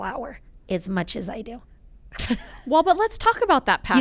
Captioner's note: chuckling